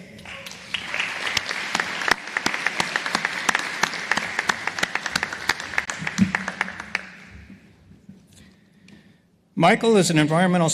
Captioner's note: applause